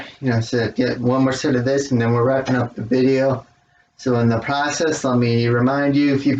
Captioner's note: claps hands